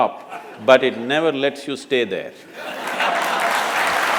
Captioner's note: laughter/Applause